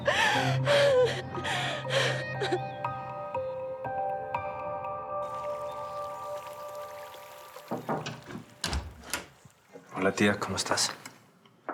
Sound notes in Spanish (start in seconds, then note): 0.0 llanto; 5.2 sonido del agua de la piscina; 7.7 toques en la puerta